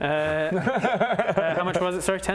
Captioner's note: metagaming giggles